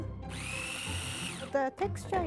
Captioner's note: food processor running